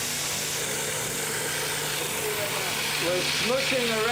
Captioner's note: food blender running